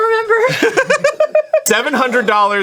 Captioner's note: laughing